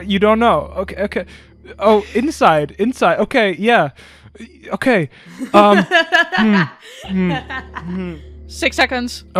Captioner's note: laughs